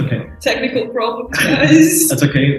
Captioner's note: chuckles